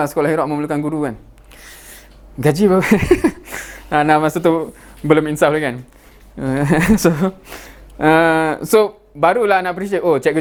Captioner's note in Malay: ketawa